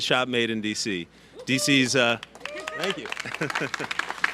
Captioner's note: applause